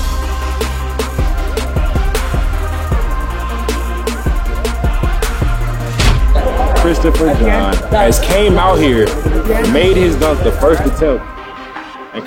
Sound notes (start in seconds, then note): 0.3 upbeat music; 6.0 dunk sound